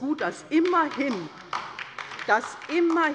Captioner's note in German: Beifall bei der LINKEN